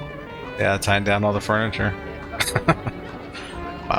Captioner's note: laughing